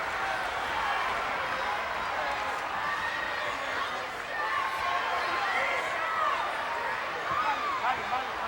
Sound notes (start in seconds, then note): 5.1 fans shouting